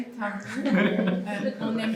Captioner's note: laugh